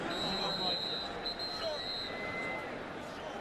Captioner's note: whistle